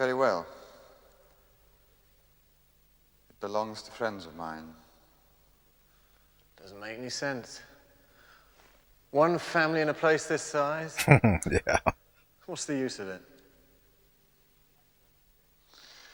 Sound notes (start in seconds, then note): 11.0 chuckling